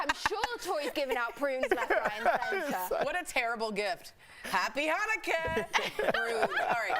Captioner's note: laughter